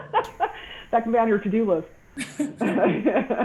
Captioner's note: laughing